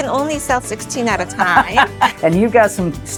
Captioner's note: laughs